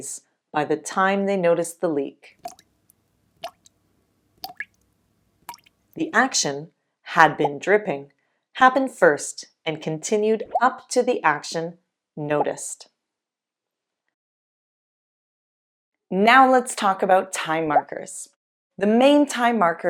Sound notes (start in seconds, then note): 2.4 water dripping